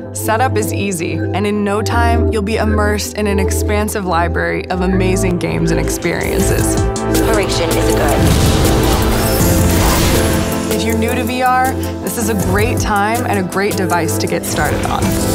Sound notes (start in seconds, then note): 7.2 explosion; 10.0 electronic whirring